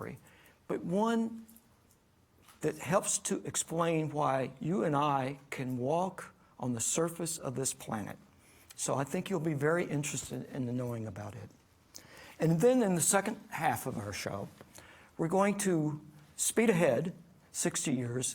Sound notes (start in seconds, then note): none